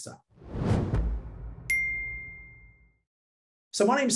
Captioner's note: logo wooshing